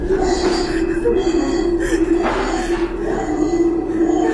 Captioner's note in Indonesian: menangis; tertawa